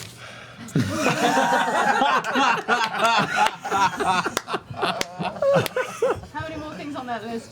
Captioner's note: laughter